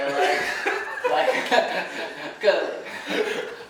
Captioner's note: laughing